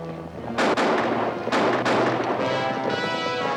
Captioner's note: guns firing